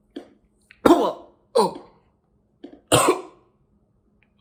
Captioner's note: Chuck coughing